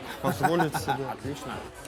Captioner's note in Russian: смеётся